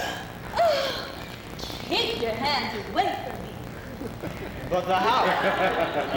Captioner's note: gasp